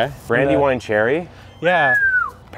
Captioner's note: whistles